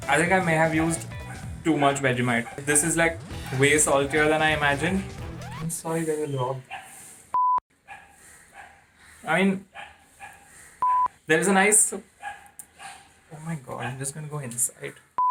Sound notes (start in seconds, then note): 5.8 speaks in foreign language; 7.3 beep; 10.8 beep